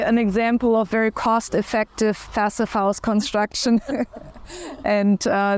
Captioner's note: chuckles